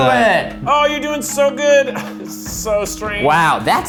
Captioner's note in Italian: risate